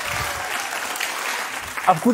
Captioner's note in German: Applaus